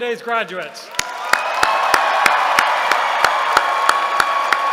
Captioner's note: cheering